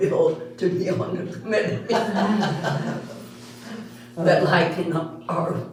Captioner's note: all Laughing